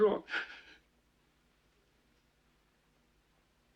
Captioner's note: Mike crying